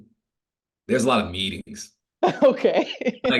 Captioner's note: laughing